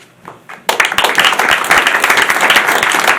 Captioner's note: applause